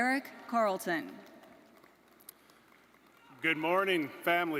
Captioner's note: audience applauding